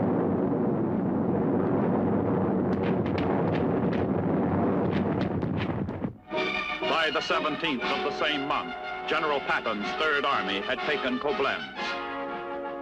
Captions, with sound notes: (bombs exploding) By the 17th of the same month, General Patton's Third Army had taken Koblenz.